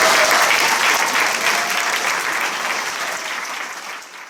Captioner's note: applause